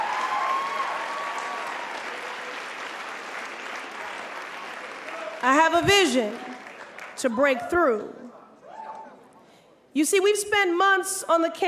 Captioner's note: applause